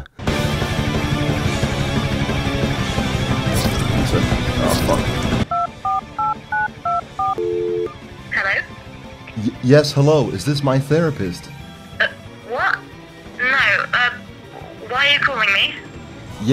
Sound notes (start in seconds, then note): 0.2 boss music; 6.8 dialing sounds